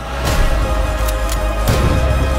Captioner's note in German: Waffe wird entsichert